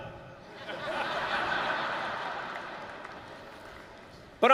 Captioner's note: laughter